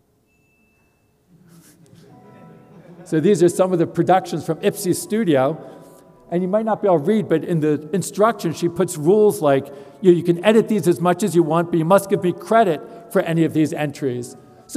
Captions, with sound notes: >> [LAUGH] >> So these are some of the productions from Ipsay Studio and you might not be able to read, but in the instructions she puts rules like, you can edit these as much as you want but you must give me credit for any of these entries.